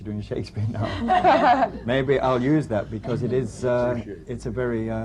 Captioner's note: laughter